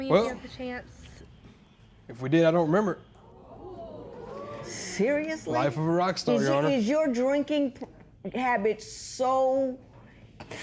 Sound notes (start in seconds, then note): 3.2 spectators murmur